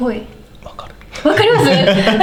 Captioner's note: laughs